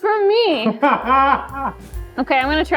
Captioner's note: laughing